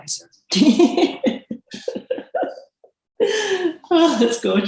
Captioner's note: laughs